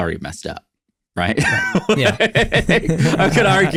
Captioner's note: laugh